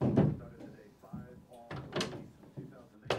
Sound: TV plays

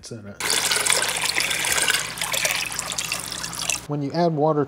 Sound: water burbling

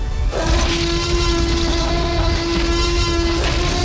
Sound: T. rex roars

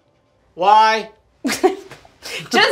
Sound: laughs

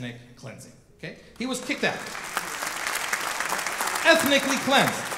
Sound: audience clapping

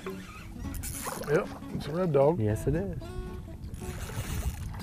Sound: splashing

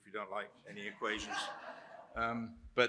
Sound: laughter

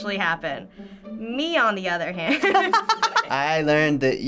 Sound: laughing

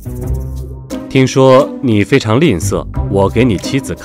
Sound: the Chinese is speaking

